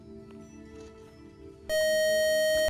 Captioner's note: beeping